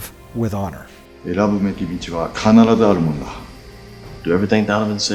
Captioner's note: speaking foreign language